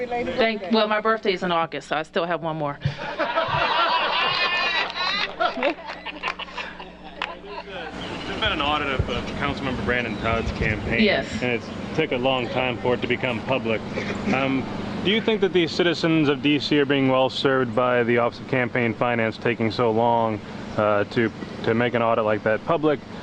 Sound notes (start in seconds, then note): 2.8 laughter